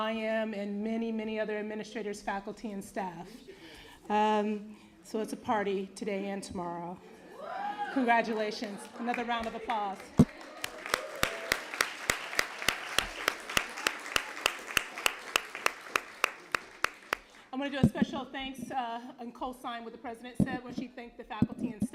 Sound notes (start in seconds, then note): 9.9 applause